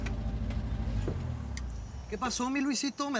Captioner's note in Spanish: ruido del vehículo